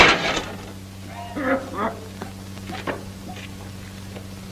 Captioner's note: coughing